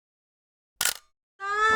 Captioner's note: camera clicks